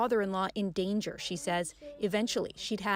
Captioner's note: speaking French